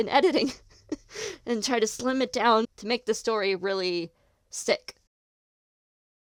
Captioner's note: laughs